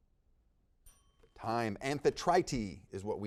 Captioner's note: bell dings